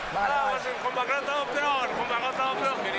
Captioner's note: speaking Spanish